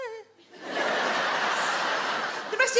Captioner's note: audience laugh